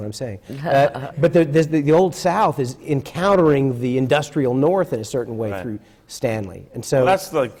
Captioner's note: laughs